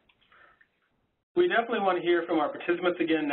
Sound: voiceover

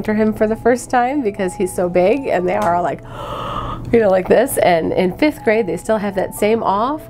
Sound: exasperated sound

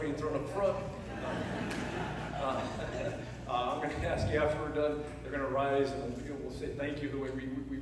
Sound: laughter

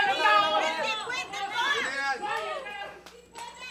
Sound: clamoring

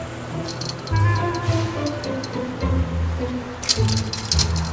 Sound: fence rattling

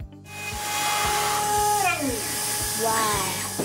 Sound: electric saws grinding

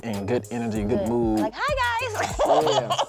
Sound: laughs

